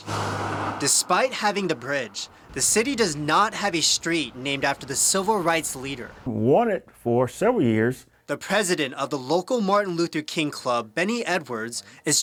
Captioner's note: car drives